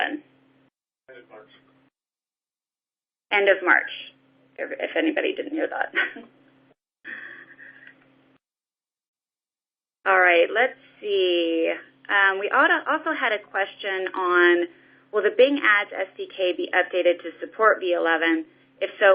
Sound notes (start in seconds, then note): 7.1 laugh